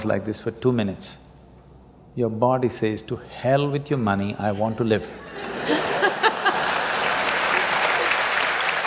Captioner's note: laughter/Applause